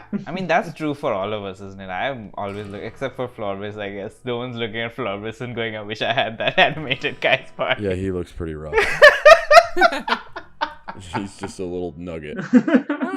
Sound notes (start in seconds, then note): 8.7 laughter